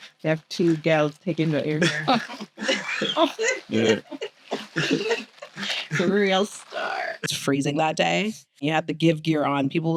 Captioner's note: laughter